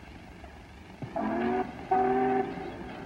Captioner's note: train whistle